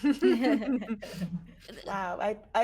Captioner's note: everyone laughs